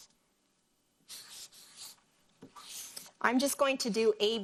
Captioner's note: marker scribbling